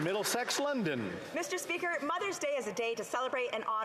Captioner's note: some Applause